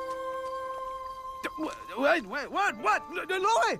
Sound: stammers from waking up

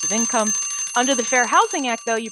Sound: bell ringing

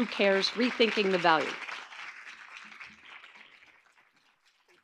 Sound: audience clapping

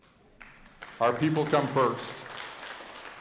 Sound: audience applauding

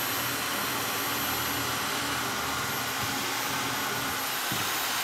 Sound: saw brattling

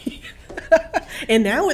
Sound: laughing

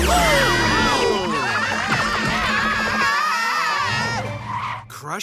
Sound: screaming

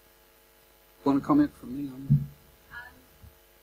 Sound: microphone stops working

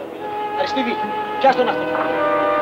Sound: Greek spoken audio

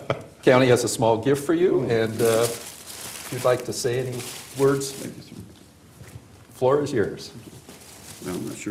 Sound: laughter

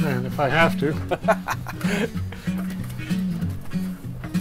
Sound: chuckling

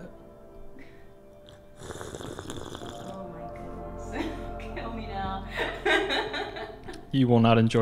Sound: laughs

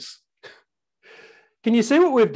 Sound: sighs

